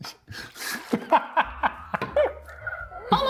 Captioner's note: laughing